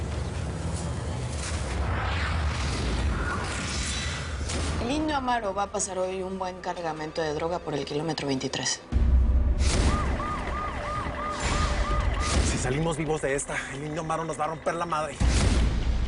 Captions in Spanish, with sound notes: - EL INDIO AMARO VA A PASAR HOY UN BUEN CARGAMENTO DE DROGAS POR EL KILOMETRO 23. [Ruido de sirenas] - SI SALIMOS VIVOS DE ESTA, EL INDIO AMARO NOS VA A ROMPER LA MADRE.